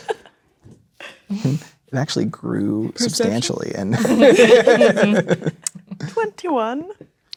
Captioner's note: laughing